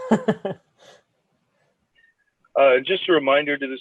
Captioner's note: laughs